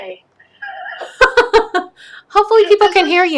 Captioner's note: laughs